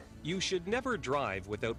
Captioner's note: voiceover